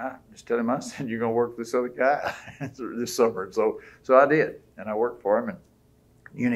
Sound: laughs

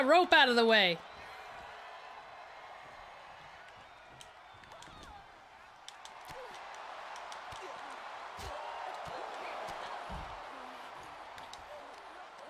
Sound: applause

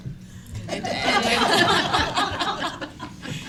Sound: laughing

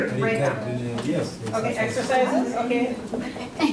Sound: voiceover

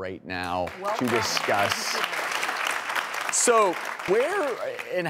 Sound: audience applauding

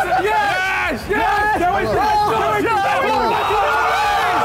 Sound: all cheering

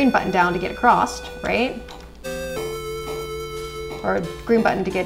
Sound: stumbles over words

